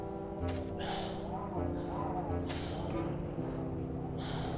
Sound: wind gusting

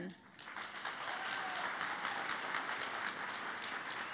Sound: cheering and Applause

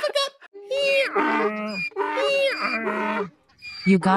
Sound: braying

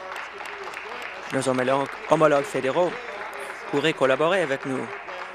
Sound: applause

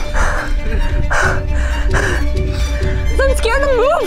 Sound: heavy breathing

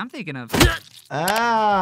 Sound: ax thuds

